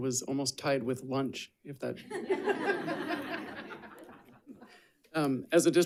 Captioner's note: audience laughing